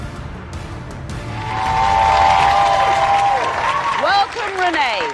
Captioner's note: audience laughs and applauds; audience cheers